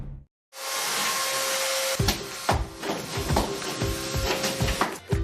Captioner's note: pounding and sawing